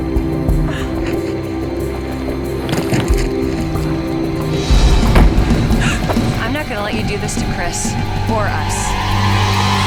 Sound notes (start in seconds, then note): 1.2 Katie groaning; 5.8 Katie gasps; 9.6 suspenseful music